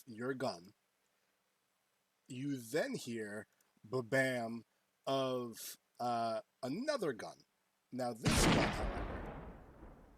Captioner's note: rifle Shot